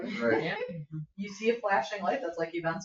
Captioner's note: people chuckle